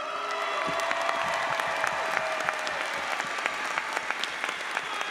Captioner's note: audience applauds